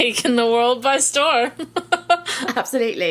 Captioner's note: laughs